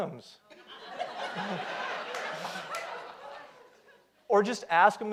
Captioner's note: audience laughs